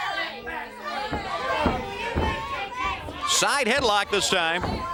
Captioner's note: crowd chatter